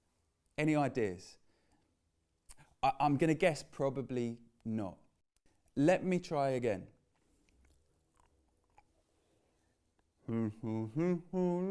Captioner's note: hums tune